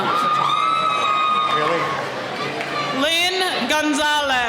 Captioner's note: cheering